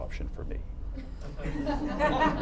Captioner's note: laughter